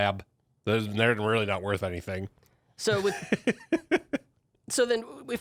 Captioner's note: chuckles